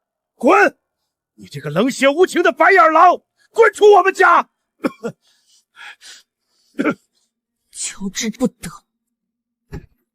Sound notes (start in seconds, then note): 5.0 cough